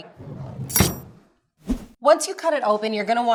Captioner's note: knife chops